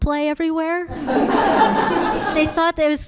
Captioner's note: audience laughing